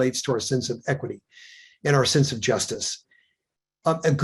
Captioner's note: none